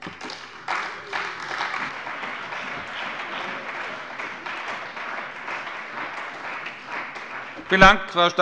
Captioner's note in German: Beifall bei der CDU und dem BÜNDNIS 90/DIE GRÜNEN